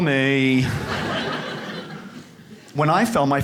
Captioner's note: audience laughs